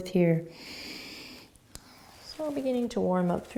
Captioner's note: inhaling